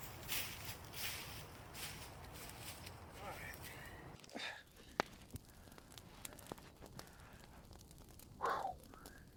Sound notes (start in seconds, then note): 5.1 fire cracks; 8.4 exhales Deeply